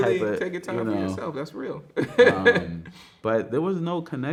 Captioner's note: laughs